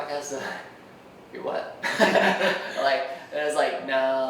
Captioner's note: laughing